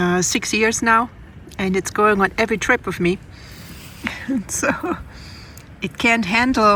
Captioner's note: laughs